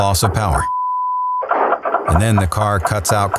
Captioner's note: beep